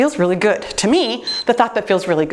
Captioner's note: timer beeps